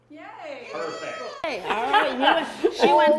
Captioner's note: shouts